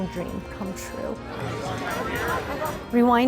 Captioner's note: crowd Walla